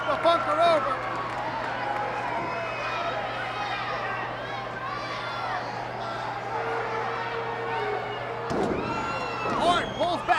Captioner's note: applause